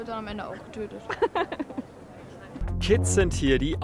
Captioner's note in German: Sie lacht laut